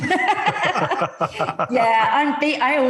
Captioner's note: laugh